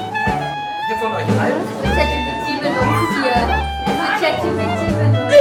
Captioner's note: speaking German